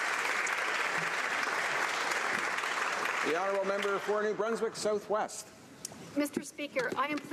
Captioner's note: some Applause